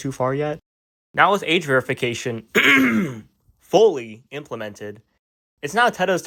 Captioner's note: clears throat